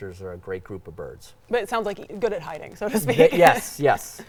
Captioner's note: laughs